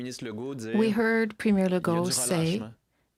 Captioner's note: speaking French